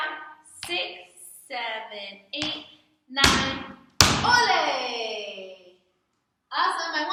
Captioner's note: clap; stomp